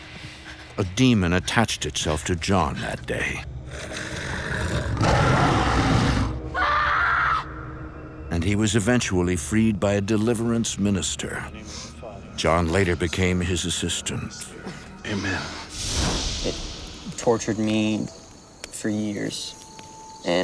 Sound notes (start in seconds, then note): 3.6 growling; 6.1 screaming